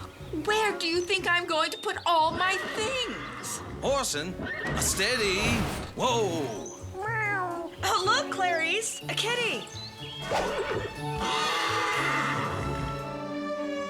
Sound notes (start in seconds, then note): 6.9 meowing; 10.2 orson neighing